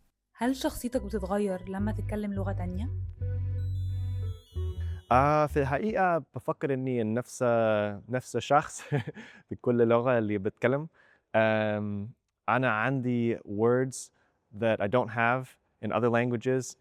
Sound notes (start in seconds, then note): 5.0 in Egyptian Arabic